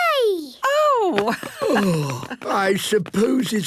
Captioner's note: laughing